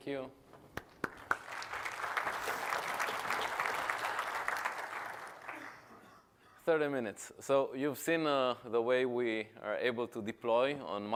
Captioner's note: applause